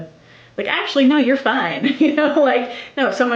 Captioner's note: laughs